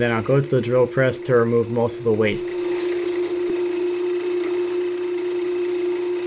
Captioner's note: machines whir